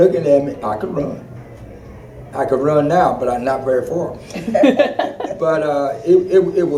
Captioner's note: laughter